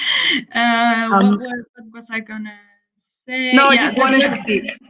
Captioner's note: laughter